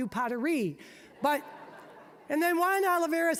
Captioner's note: audience laughing